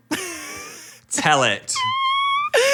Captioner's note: cries